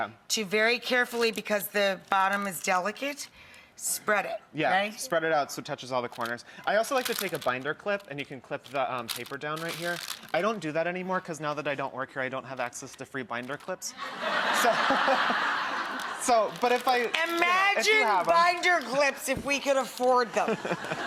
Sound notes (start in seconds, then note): 14.0 laughing